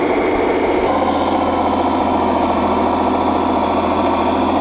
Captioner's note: motor running